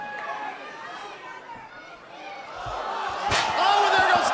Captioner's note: crowd cheering